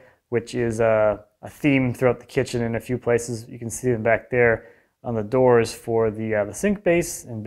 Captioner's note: none